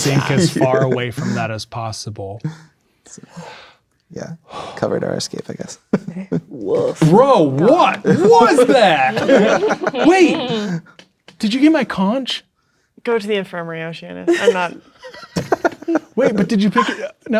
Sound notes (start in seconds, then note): 3.3 exhales; 9.4 players laughing